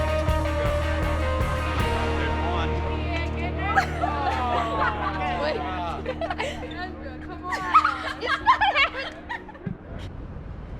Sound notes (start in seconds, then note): 3.5 laughing; 10.5 electronic hip hop music